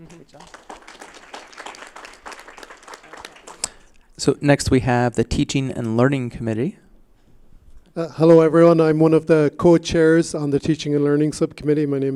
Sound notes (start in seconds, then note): 1.8 applause